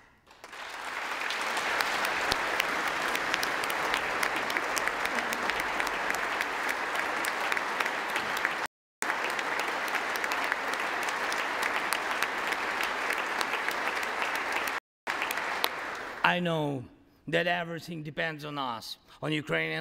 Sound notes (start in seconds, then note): 9.0 applause